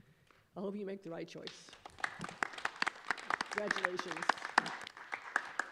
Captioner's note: clapping